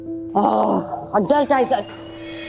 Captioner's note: frustrated groan